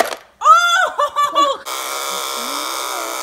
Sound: laughing

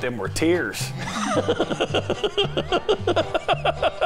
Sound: laughing

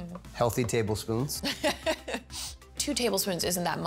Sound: laughing

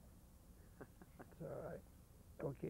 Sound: laughing

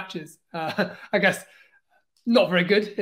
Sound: laughs

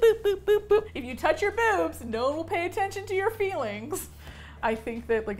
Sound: laughs

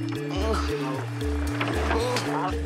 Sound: Portuguese spoken audio

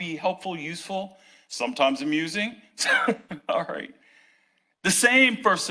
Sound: laughs

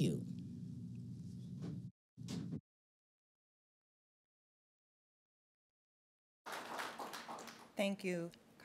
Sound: applause

